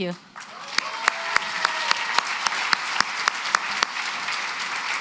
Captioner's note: applause